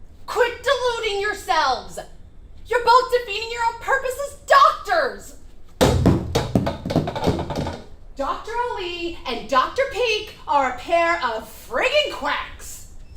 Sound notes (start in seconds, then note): 5.8 chair thuds; 5.8 chair clatters